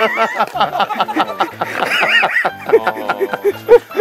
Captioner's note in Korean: 폭소